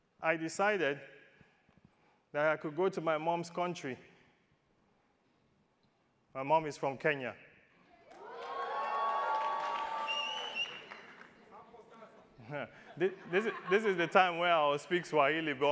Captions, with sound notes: I decided that I could go to my mom's country. My mom is from Kenya. (attendees cheering) This is the time where I'll speak Swahili